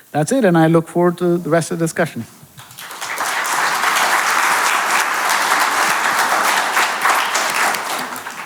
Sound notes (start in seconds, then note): 2.5 audience clapping